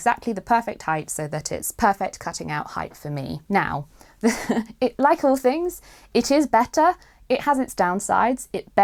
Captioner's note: chuckles